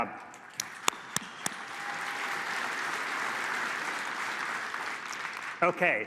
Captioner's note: applause